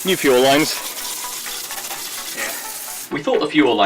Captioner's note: water spraying